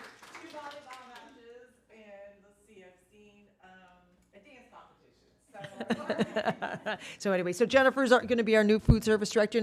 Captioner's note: applause